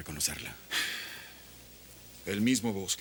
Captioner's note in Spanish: Dave suspira